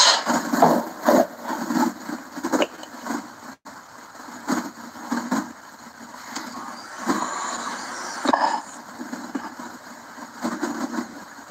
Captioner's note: laughs